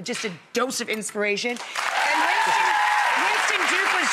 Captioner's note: audience applauding